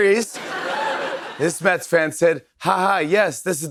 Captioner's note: laughter